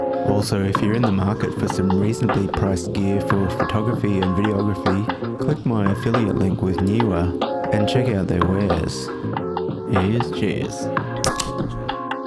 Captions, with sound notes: Also, if you’re in the market for some reasonably priced gear for photography and videography, click my affiliate link with Neewer and check out their wares. Here’s cheers! [Tasty beverage opening]